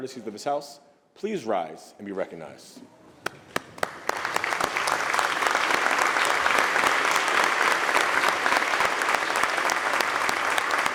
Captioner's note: applause